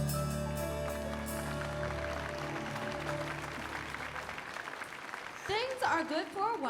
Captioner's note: audience clapping